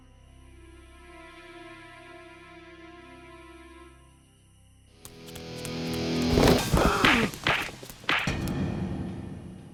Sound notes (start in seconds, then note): 4.2 somber music; 4.9 buzzing; 6.5 grunting; 8.3 eerie music